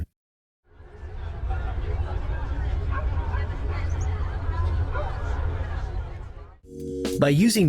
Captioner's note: busy Town Ambience with Volcano Rumble background